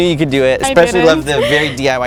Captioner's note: laugh